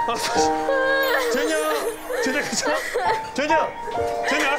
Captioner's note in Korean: 호러룸을 가득 채우는 구슬픈 울음소리